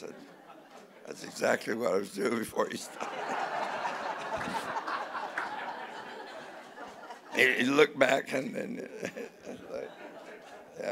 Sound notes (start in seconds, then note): 2.9 laughing